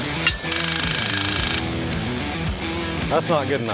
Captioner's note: rock music; jackhammer runs